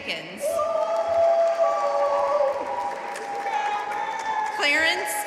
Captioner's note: audience cheering and applauding